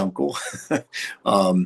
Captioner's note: chuckles